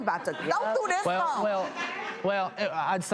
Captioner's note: audience laughs